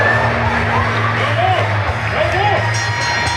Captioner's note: bell rings